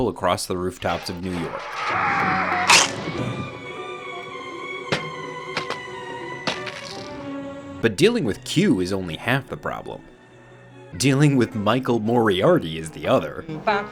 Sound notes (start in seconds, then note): 1.8 man screaming; 3.6 dramatic music